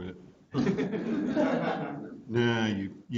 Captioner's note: students laugh